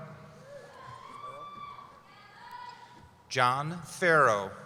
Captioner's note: cheering